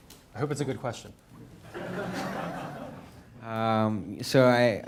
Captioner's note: audience laughing